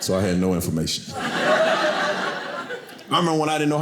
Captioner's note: audience laughing